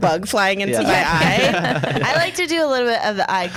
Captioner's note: laughs